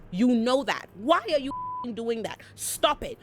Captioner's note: beep